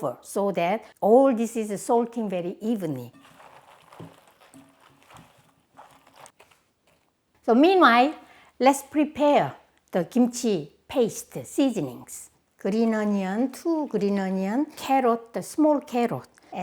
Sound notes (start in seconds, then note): 2.8 bok choy rustling